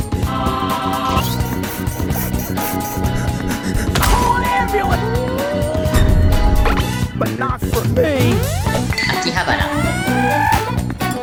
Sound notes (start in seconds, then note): 1.0 creaking; 1.0 desperate dancing sounds; 9.5 insane screaming